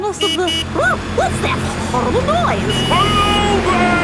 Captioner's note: honking